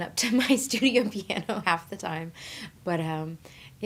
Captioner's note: laughing